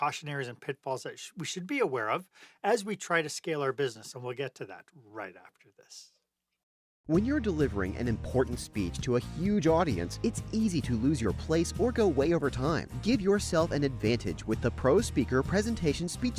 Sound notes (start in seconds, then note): 6.6 voiceover